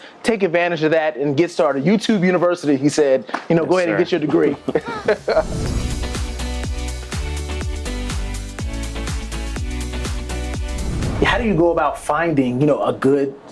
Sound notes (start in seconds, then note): 5.6 laughter; 6.5 upbeat music